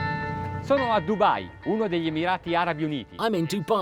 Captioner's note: speaking foreign language